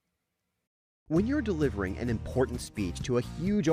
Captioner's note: voiceover